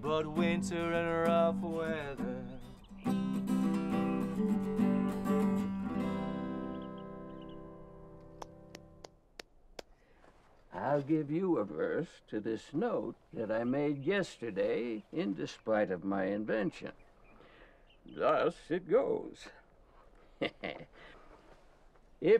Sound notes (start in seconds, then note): 20.1 laughs